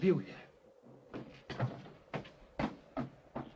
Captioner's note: footsteps scrambling; door closes